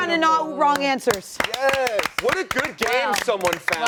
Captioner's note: clapping